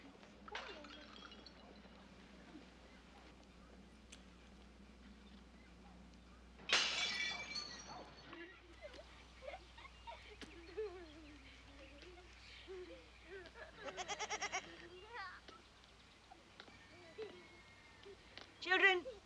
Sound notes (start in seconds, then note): 0.5 loud smashing and tinkling; 6.6 loud smashing; 8.2 girls giggling; 13.9 baa of sheep; 16.2 girls giggling